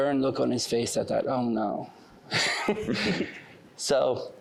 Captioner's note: chuckling